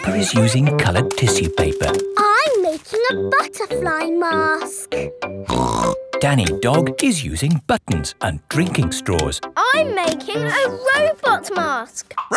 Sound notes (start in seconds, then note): 5.5 snorts